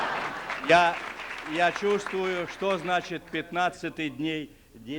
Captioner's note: laughter; non-english speech